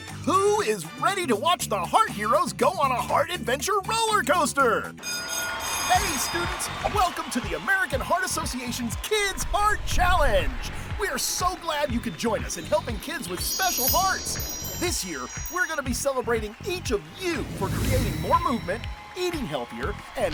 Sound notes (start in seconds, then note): 5.0 school bell ringing